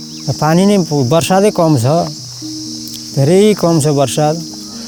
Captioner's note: speaks in foreign language